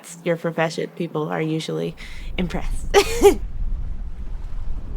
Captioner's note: laughs